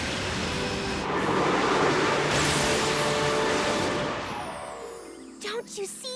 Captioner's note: electricity crackles